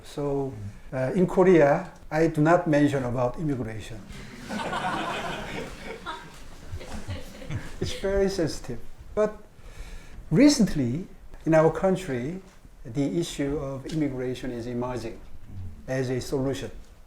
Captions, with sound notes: So in Korea, I do not mention about immigration. (laughs) (audience laughing) It's very sensitive. But recently in our country, the issue of immigration is emerging as a solution.